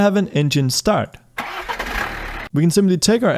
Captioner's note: motor roaring